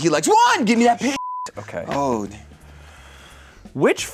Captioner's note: beep